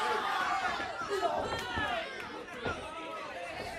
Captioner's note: crowd chatter